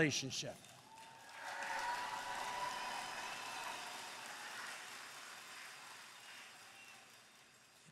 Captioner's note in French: Acclamations et applaudissements